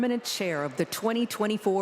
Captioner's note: applause